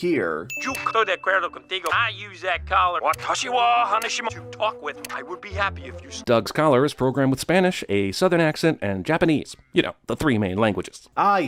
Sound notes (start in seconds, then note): 5.0 click